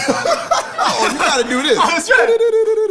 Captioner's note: Terry laughing